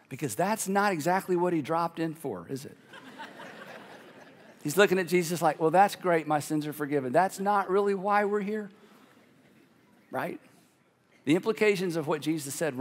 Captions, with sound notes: because that's not exactly what he dropped in for, is it? (congregation laughing) He's looking at Jesus like, "Well, "that's great my sins are forgiven, "that's not really why we're here." Right? The implications of what Jesus said